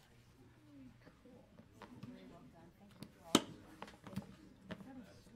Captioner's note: people conversing